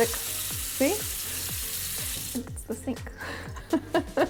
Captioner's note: laughs